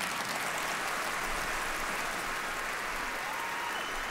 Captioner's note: applause